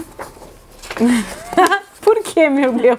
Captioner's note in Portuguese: risos